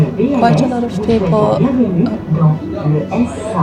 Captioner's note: announcement in French